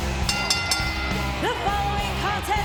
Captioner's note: bell rings